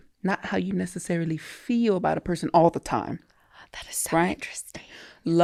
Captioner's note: none